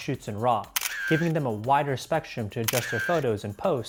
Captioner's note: camera shuttering